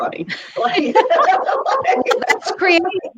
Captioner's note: laughs